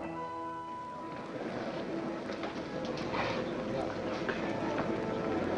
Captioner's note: crowd muttering